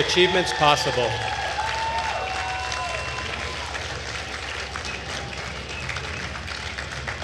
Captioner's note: attendees cheering and applauding